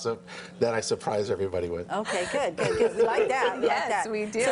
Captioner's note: laughter